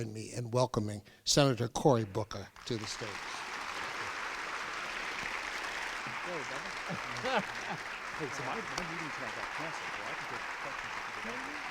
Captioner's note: crowd applauds